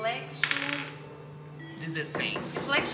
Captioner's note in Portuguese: batida na porta